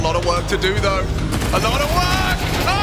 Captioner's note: gun firing